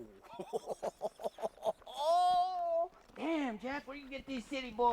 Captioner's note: laughs